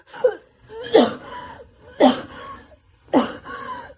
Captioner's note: coughing